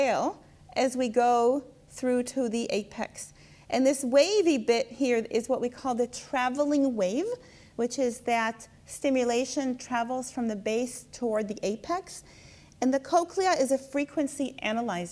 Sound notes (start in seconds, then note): none